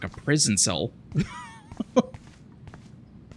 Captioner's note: laughs